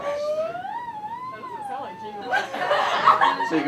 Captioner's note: laughter